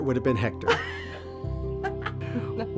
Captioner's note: laughs